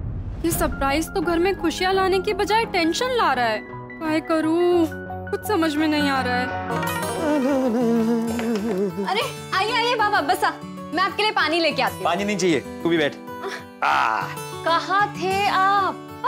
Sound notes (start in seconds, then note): 7.0 humming; 13.4 sighs